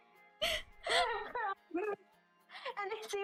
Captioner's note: confused laughing?